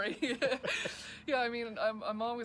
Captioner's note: speakers laughing